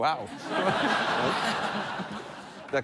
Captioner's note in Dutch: gelach